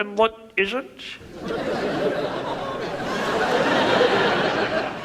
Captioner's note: audience laughs